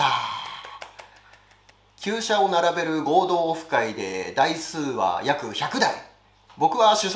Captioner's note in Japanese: 拍手